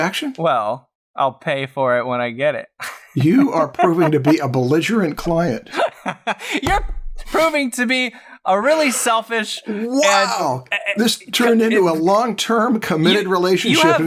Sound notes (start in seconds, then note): 5.6 laughter